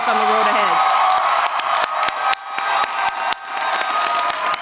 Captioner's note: crowd applauding